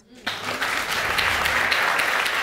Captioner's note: audience applauding